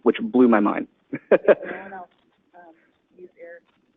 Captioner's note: laughs